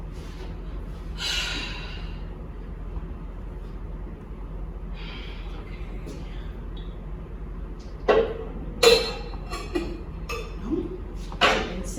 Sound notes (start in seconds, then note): 1.6 sighing; 9.1 clattering